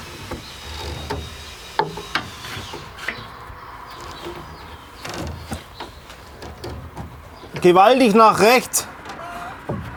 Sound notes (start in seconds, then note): 0.6 distant whirring